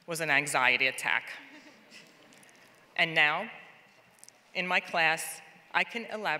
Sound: laugh

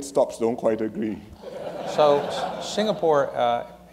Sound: laughter

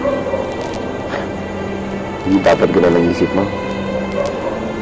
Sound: scoffs

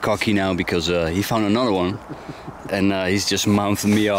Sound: chuckles

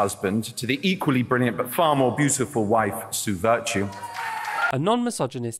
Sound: applause and cheering

